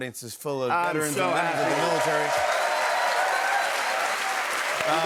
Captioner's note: cheers and applause